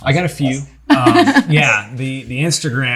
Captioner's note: laughter